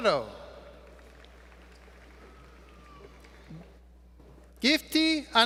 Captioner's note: applause